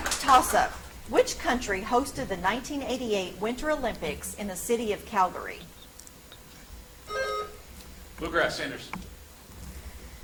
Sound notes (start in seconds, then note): 0.0 audience applauds; 7.0 buzzer chimes